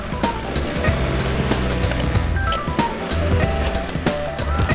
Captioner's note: car engine revving